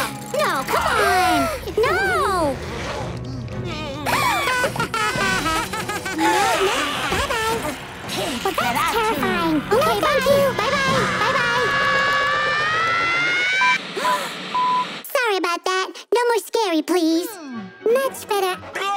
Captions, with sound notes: No, come on. No. [laughing] Bye, guys. That's terrifying. No, thank you. Bye-bye. Bye-bye. [screaming] [beeping] Sorry about that. No more scary, please. Much better.